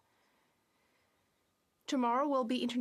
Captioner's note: speaking French